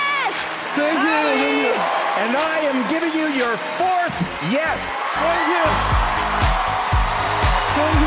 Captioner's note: cheering